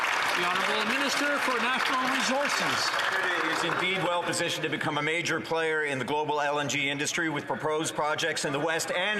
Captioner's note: some Applause